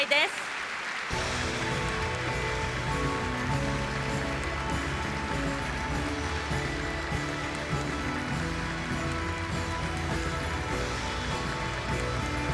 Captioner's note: applause